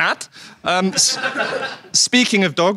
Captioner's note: audience laughs